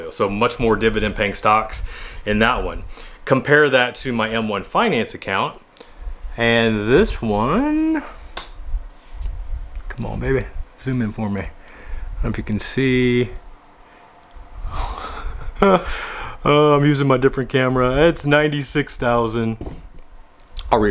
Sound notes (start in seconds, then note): 14.9 laughs